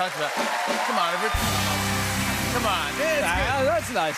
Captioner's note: cheers and applause